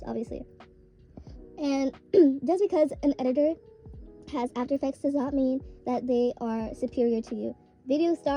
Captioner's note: clears throat